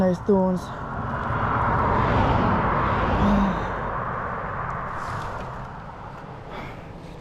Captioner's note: cars passing